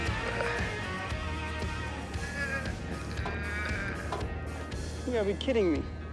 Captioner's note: grunting, straining